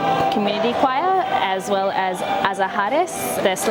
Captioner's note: foreign language